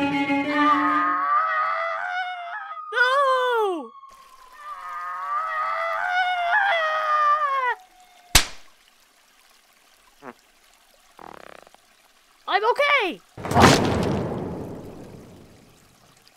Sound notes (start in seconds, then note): 0.7 Whiteclaw screams; 4.4 Whiteclaw screaming; 8.1 slam!; 13.4 crash; 13.4 splat